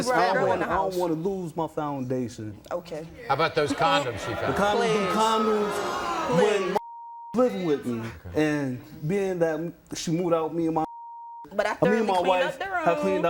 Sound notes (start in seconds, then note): 6.8 beep; 10.9 beep